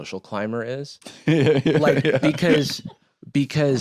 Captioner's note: laughing